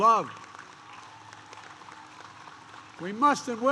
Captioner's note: applause